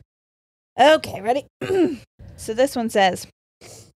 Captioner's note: clears throat